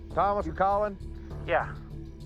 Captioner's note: over walkie